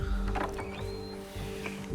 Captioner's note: door opens